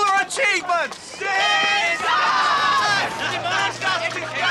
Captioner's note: shouting